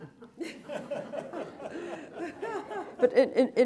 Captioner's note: laughter